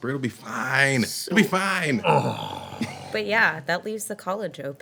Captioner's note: groaning